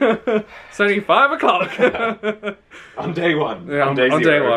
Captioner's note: laughs